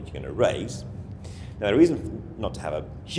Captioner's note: inhales audibly